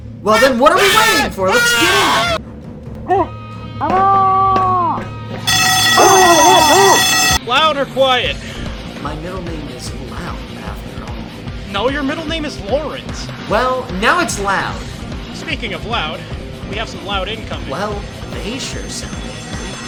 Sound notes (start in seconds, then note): 0.3 intense screaming; 6.0 Confused Pyro noises